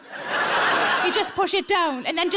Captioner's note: audience laughs